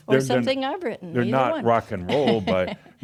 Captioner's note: she chuckles